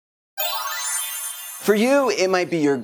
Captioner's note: chimes